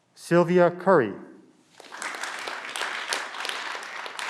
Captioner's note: clapping